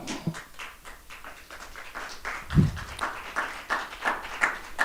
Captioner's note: audience applauding